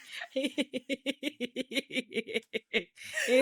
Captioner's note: laughing